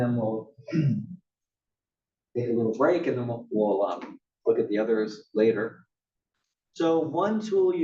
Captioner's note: cough